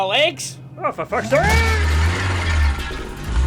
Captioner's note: yells; cans clattering